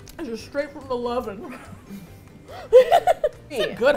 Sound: both laugh

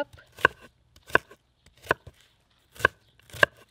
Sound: chopping

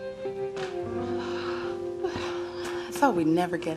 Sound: sighing

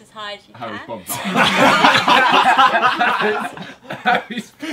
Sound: group laughing

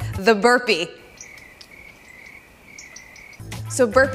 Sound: crickets chirping

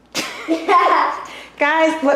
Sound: laughter

